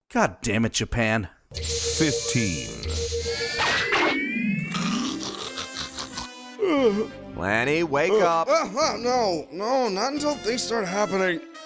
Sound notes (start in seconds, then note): 4.8 snoring; 6.5 yawn